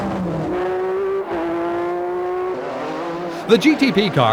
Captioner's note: engines whine